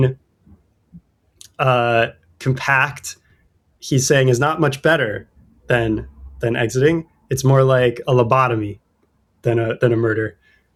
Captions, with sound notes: [UH] compact he's saying is not much better than than exiting. It's more like a lobotomy than a than a murder.